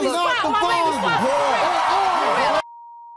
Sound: audience cheers

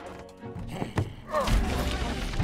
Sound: snarl

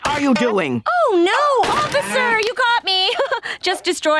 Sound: chuckles

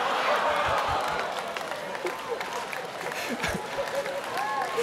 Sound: students laughing

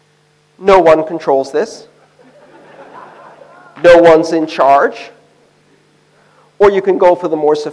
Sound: laughter

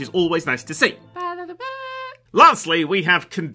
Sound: mouth trumpet

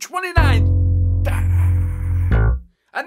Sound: boing

